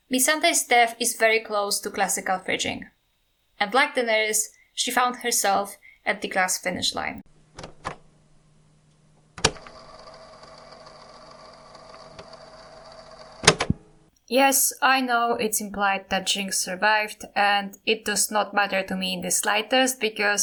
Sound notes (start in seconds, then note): 9.3 cassette sound